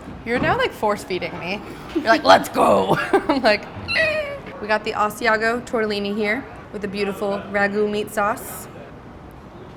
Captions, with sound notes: You're now, like, force feeding me. You're like, "Let's go!" (laughs) I'm like (squeaks). We got the Asiago tortellini here, with the beautiful ragu meat sauce.